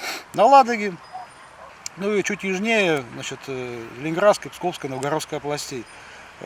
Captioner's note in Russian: фыркает